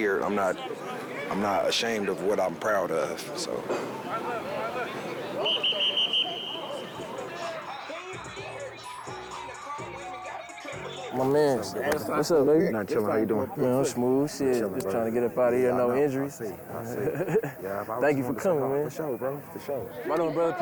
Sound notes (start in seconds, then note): 5.3 whistle blows; 7.5 hip hop music